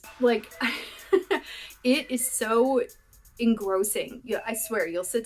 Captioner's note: laughter